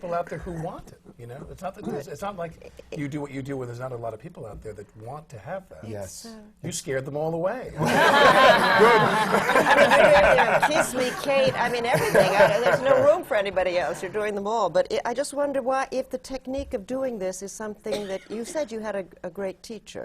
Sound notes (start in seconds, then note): 0.0 laughs; 7.8 laughter